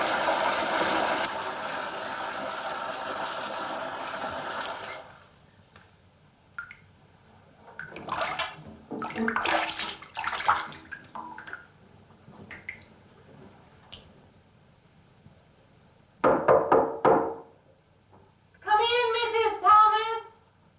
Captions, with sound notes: (water stops) - Come in, Mrs. Thomas.